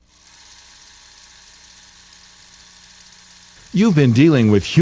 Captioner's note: film reel running